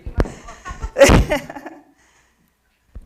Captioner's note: laughter